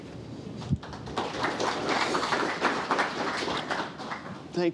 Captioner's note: applause